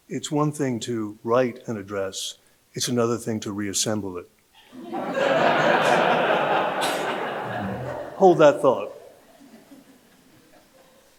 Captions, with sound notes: - It's one thing to write an address, it's another thing to reassemble it. (audience laughing) Hold that thought.